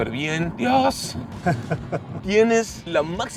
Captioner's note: laughter